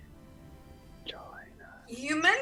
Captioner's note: whispers